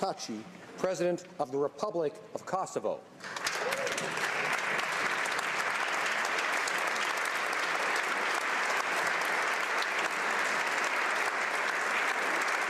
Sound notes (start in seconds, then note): 6.0 applause